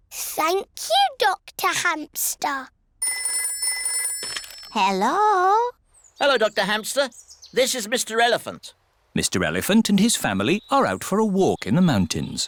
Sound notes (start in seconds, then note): 3.0 phone rings